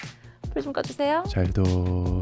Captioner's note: clap clap